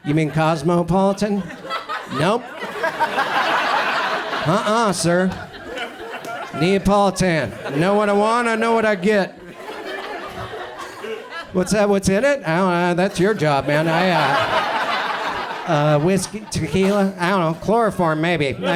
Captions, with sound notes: you mean Cosmopolitan? Nope. (audience laughs) Uh unh sir, Neapolitan. I know what I want, I know what I get. (audience chuckles) What's that, what's in it? That's your job man. (audience laughs) Whiskey, tequila, I dunno, chloroform maybe.